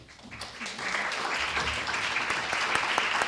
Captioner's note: applause